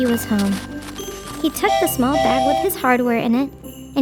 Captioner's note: train whistle blowing